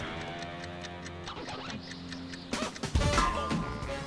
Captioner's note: clock ticking